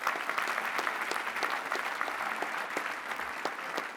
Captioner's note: applause